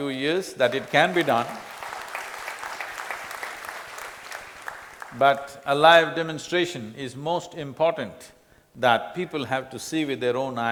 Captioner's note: applause